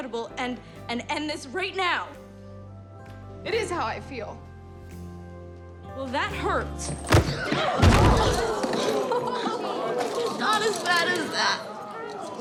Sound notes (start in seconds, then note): 6.5 gasping; 7.0 thudding